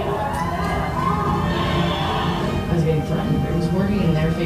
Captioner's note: shouting